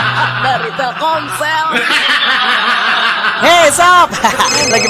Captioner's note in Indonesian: tertawa